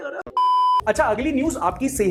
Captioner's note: beep